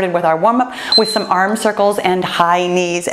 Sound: timer beeps

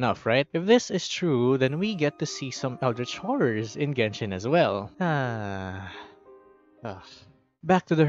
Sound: sigh

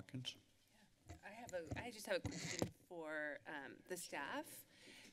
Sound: mic rustling

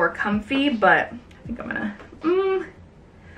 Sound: hums

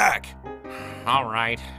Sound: sigh

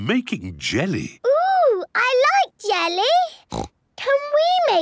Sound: snorts

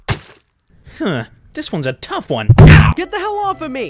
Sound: yells

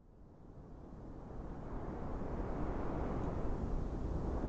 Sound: wind sound

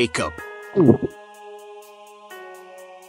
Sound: nervous gulp

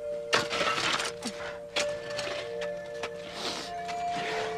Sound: metal scraping

